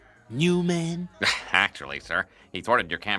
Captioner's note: lightly chuckes